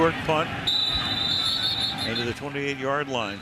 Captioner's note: whistle blows